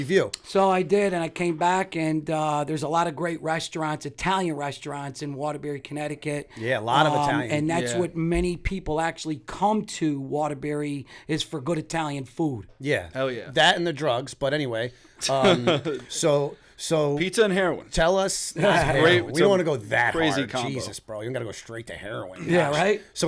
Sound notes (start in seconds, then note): 15.4 chuckle